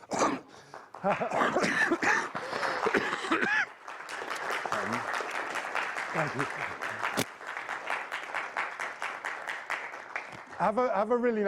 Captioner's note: applause